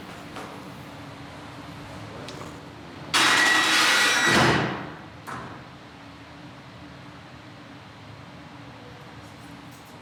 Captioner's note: cell door closes